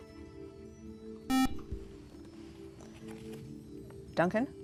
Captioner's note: buzzer